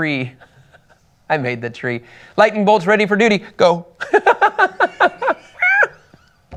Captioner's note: laughs